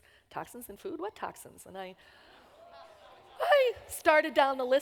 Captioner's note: audience reacts